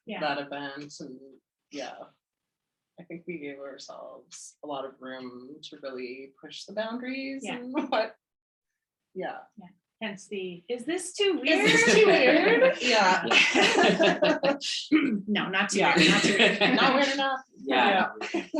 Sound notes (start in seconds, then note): 11.5 laughs; 18.3 speaks faintly